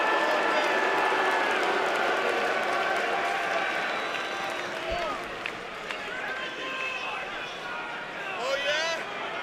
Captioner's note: cheers and applause